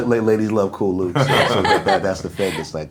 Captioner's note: laughing